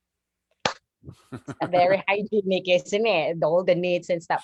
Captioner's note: chuckles